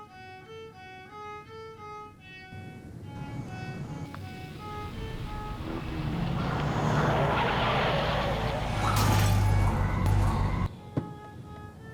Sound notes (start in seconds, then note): 6.5 tires screeching; 11.4 thumping